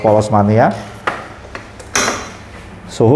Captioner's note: press machine noise